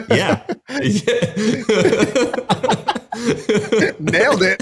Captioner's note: both chuckling